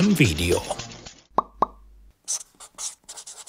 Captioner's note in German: Ploppgeräusche